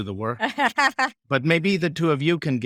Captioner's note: laughing